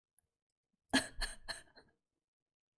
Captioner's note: laughs